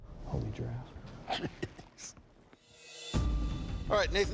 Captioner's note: laughs